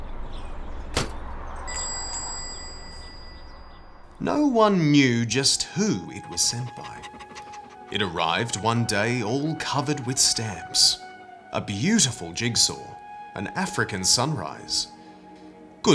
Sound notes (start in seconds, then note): 1.6 doorbell jingling; 6.7 dog panting